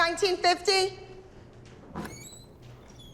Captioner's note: door squeaks open